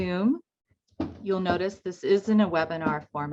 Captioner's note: box thuds